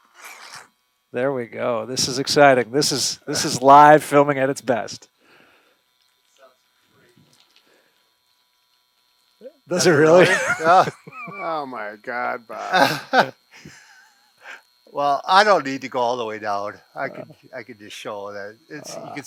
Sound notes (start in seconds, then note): 9.8 laughs